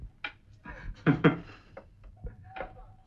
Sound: chuckles

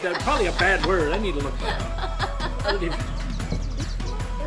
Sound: laughter

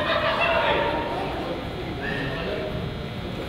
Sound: team laughs

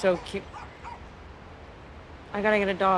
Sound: dog barking

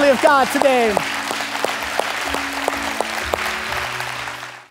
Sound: congregation applauding

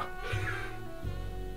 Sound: gasping

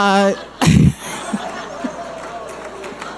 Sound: laughing

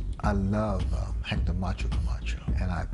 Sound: hablan en ingles

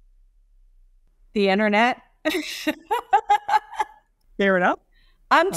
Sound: laughs

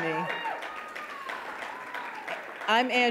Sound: audience cheering

